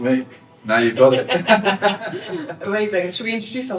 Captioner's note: laughing